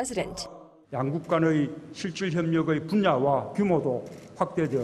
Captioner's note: Korean